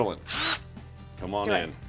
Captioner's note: drilling sound